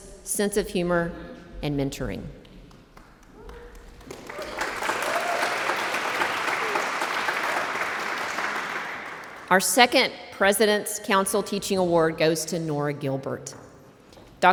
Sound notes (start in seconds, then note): 3.7 audience applauds